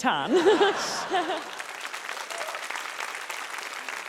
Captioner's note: laughter, applause